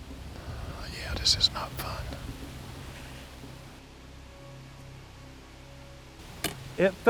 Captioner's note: whispering